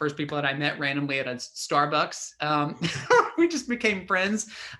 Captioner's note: laughs